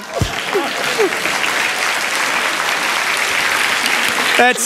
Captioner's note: applause